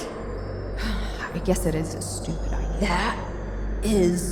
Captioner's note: sighs